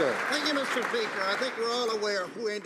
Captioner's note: some Applause